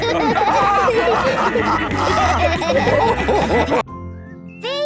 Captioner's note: all laughing